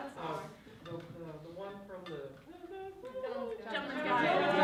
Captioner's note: vocalizes